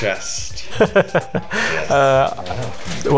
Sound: laughs

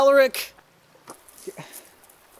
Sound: frustrated sigh

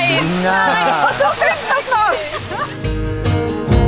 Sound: laughing

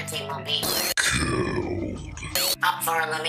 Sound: deep voice

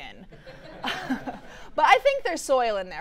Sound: audience laughing

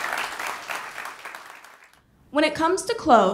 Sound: ^applause^

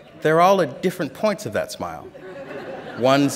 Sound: laughter

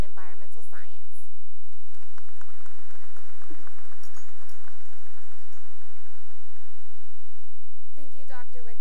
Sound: applause

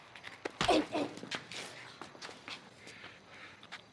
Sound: bashing

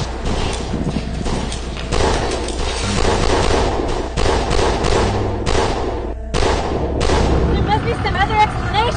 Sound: gun shots

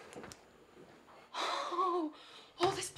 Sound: exhales

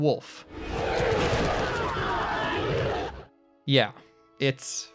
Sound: growling

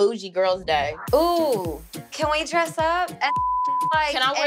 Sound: beep

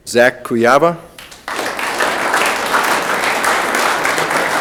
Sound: room applauds

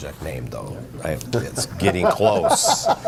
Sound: laughter

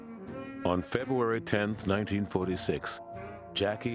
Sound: voiceover

